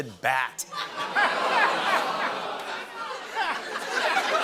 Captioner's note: laughter; audience "Oohs"; laughter continues